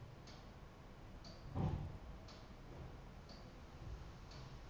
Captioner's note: clock ticking continues